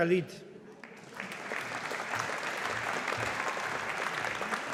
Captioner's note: audience applauding